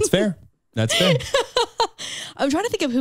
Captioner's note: chuckles